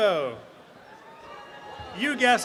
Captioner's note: cheering